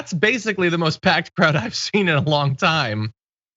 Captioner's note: laugh